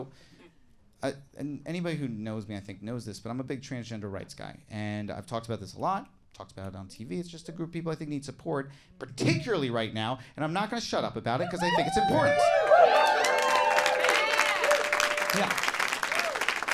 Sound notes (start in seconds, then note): 11.6 audience cheering and applauding